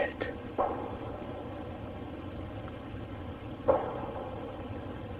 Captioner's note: distant banging